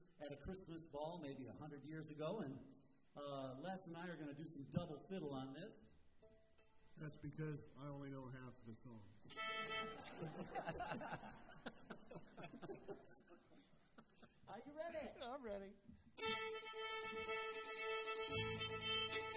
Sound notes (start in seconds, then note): 9.8 laughter; 16.5 festive music